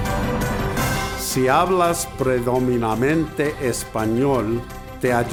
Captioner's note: speaking in foreign language